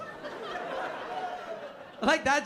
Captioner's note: laughter